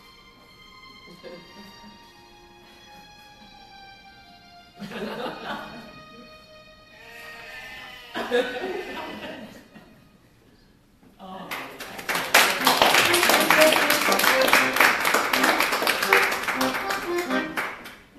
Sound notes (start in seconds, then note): 4.8 laughter; 7.0 sheep bleating; 8.1 laughter; 11.5 applause